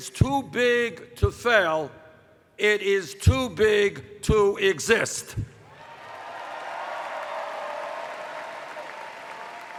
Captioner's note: cheers